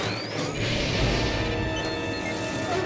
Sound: combusting; belching

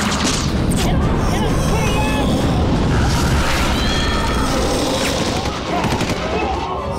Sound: guns blasting; mummies growling

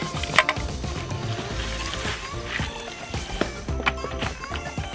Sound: water swishing

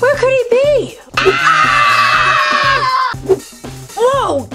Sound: screaming

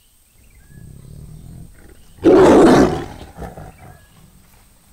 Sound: animal roar

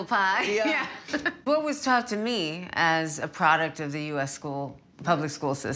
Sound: laughs

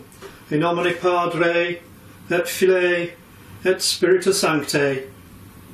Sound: talking in foreign language

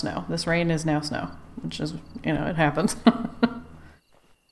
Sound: laughs

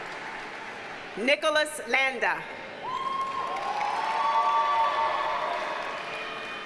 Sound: audience cheers and applauds

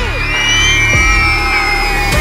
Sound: crowd screaming

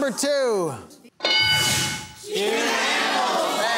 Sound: bell dinging

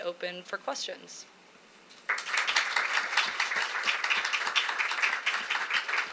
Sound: applause

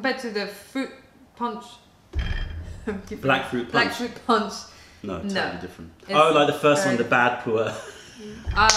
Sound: laughter

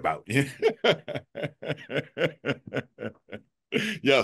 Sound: laughter

